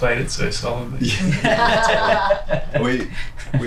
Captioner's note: all laugh